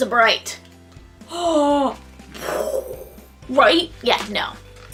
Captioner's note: gasp and explosion noises